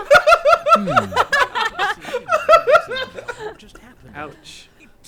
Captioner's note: group laughing